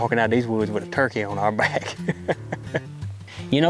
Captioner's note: laughs